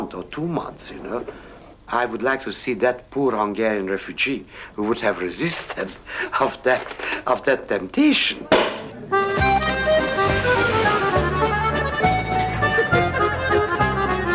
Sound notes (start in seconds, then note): 8.5 cork pops; 9.1 whimsy music